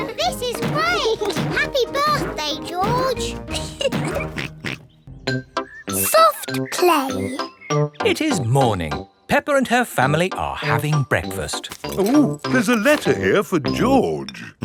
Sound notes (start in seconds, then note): 2.0 oinks; 3.5 laughs